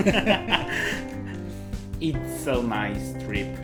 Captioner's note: laughs